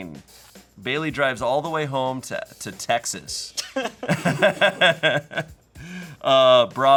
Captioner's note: laughs